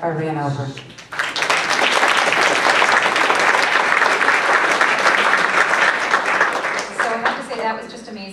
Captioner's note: applause